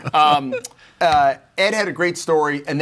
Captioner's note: all laughing